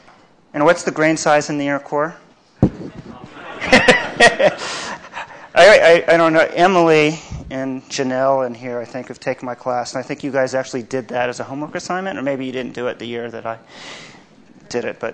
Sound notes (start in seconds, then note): 2.7 laughs